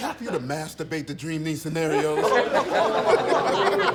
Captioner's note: laughter